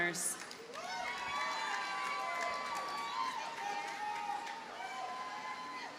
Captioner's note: audience cheers and applauds